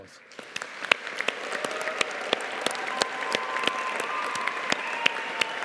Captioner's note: audience cheering and applauding